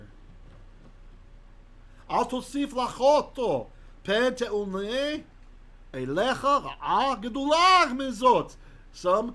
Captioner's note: Hebrew